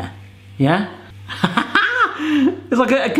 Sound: laughing

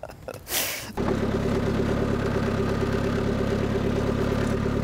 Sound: motor rumbling

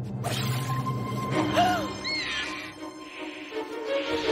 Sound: gasping

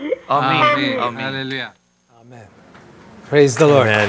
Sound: speaking in foreign language

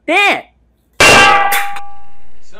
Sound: clang!

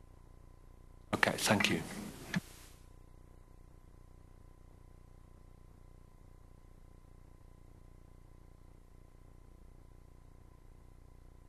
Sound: no speaking

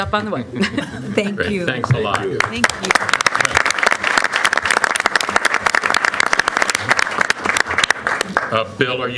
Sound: applause

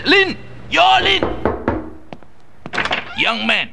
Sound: knock knock knock

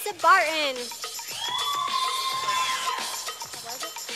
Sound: sound of a cheer from audience

